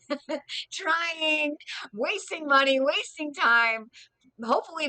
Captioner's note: laughs